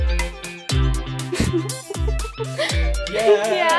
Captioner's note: laughs